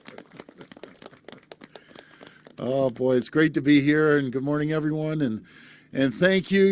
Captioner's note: applause